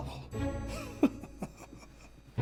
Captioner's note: laughs